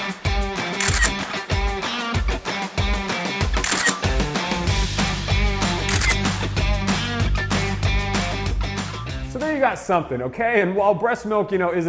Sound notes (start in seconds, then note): 0.7 camera shutter clicks; 3.5 camera shutter clicks; 5.8 camera shutter clicks